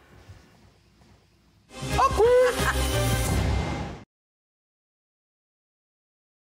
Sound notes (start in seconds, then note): 1.9 laughing